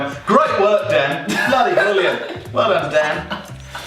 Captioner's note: laughing